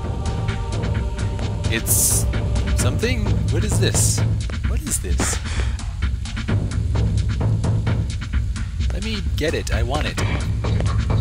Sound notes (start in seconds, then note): none